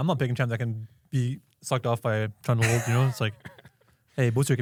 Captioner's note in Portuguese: risos